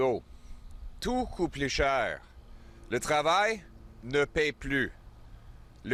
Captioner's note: French